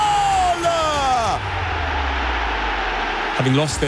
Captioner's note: crowd cheering